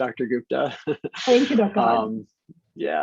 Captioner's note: laughing